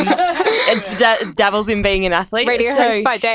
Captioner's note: laughing